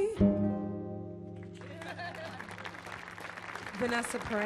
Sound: audience clapping; laughs

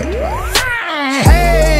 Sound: dying Noise

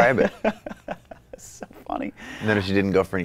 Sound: laughs

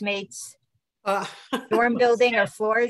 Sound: laughs

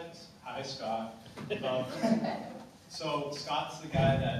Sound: laughter

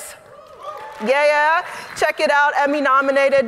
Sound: audience applauding

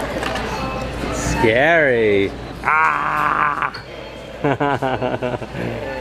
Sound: laughing

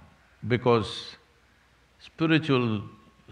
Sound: none

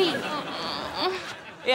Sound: moaning

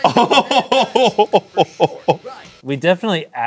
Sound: laughing

